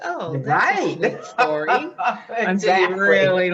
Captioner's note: interviewee loughs